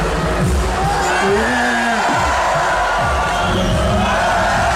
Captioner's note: crowd cheering